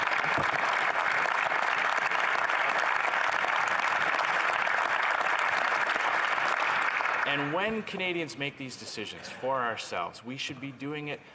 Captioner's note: some Applause